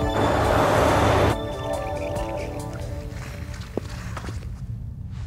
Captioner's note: bike squeaking